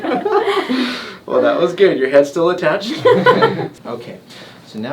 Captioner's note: laughs; laughs